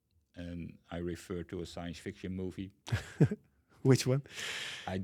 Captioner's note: chuckles